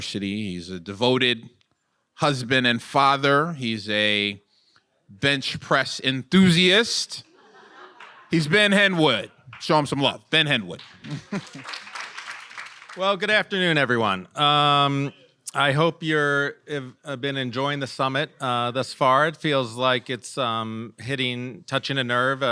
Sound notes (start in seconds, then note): 7.2 attendees laughing; 10.8 attendees clapping